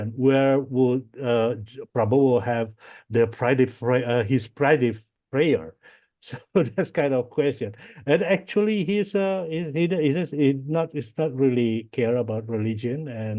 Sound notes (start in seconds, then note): 7.6 laughs